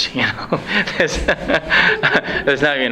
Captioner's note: laughs